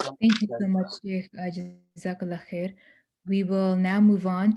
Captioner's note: non-english speech